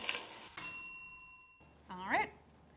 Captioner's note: bell ringing